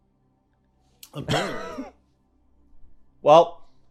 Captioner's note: laughing